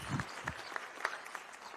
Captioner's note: applause